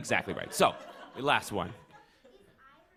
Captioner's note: laughter